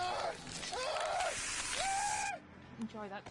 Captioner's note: screaming intensifies